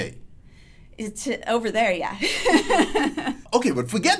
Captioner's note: laughs